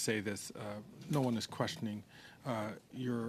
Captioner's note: speaking French